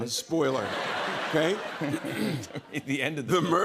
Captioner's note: laughter